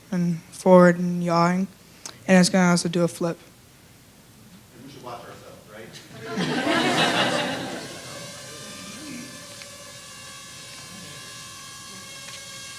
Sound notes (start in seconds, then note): 6.1 laughter; 8.1 rotors buzzing